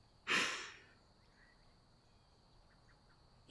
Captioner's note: laughs